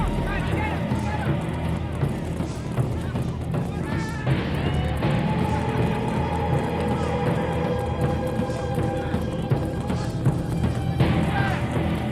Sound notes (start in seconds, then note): 3.4 dramatic music; 3.4 feet clacking